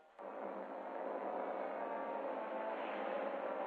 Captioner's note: engine rumbling